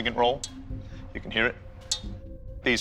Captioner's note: metal pings